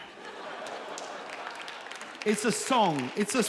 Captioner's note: audience laughing